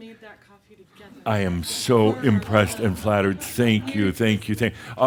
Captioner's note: some chuckles